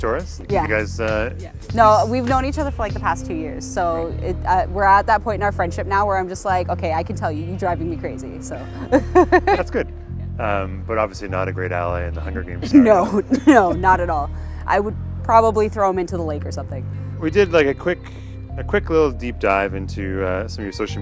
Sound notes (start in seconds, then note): 8.6 laughs